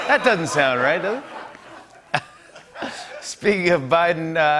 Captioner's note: laughter